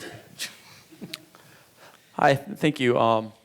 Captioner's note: speaker chuckling